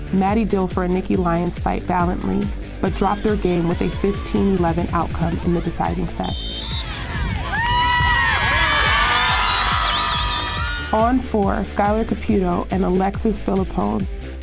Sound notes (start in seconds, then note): 6.8 cheers and clapping